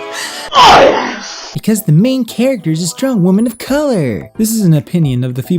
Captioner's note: in a mocking tone